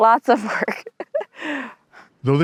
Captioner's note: laughs